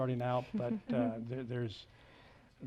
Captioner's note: chuckles